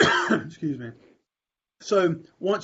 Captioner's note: coughs